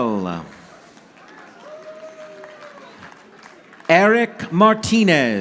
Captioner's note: audience applauding